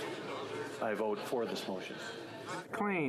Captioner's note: speaking French